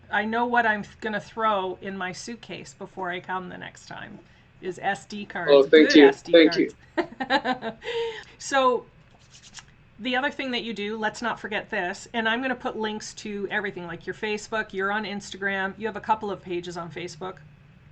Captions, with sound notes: I know what I'm gonna throw in my suitcase before I come the next time, is SD cards, good SD cards. - Thank you. (laughs) - So, the other thing that you do, let's not forget this, and I'm gonna put links to everything, like your Facebook, you're on Instagram, you have a couple of pages on Facebook.